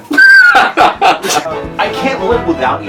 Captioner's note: laughter